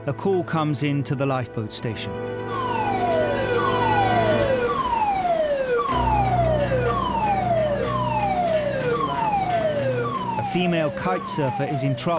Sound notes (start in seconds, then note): 2.7 alarm blaring